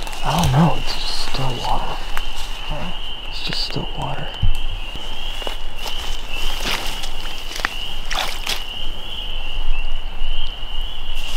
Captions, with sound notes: - I don't know, it's just still water. It's just still water. (insects chirp) (water splashes)